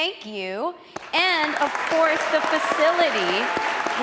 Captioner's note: audience cheering